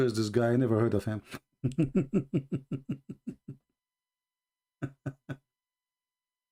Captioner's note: Ketawa